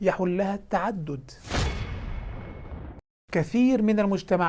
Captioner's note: sound effects